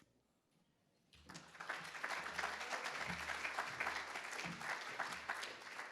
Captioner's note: attendees applauding